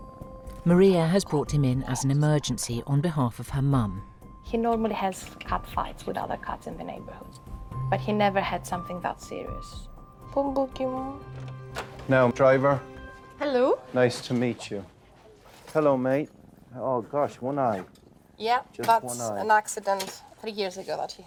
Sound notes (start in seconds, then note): 10.4 speaking in a foreign language